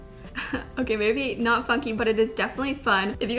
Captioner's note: chuckles